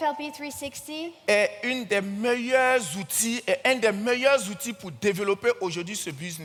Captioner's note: continues in French